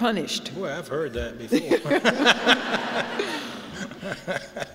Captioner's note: laughter